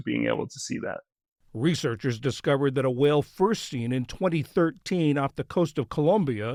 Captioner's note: voice-over